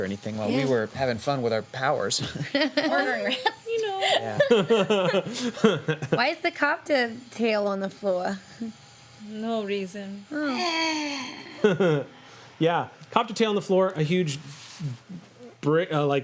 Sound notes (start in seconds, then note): 2.3 laughing; 10.7 groans; 12.1 laughs